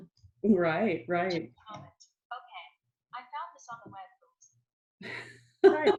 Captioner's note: robot Voice; laughing